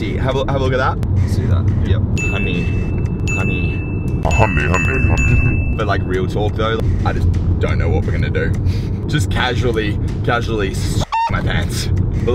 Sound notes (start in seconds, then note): 4.2 ominous Voice; 10.7 chicken cluck